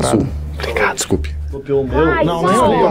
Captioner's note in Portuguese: sussurrando